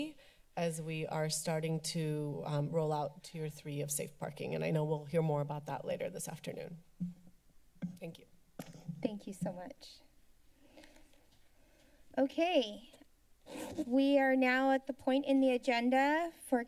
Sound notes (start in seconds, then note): 6.9 mic Thumps; 13.4 zipping Sound